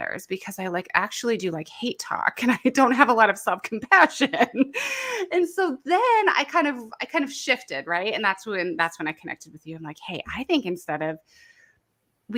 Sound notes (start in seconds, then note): 4.2 laughs